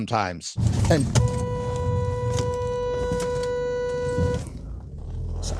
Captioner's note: long car horn beep